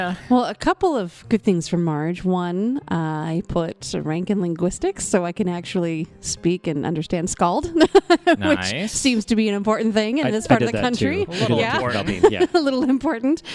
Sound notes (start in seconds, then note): 7.8 laughs